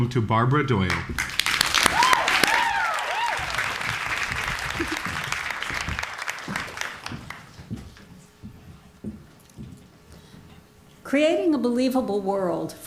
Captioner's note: applause